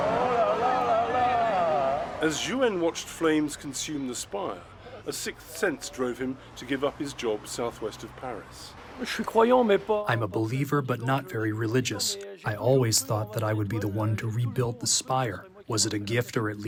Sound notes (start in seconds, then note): 10.1 through translator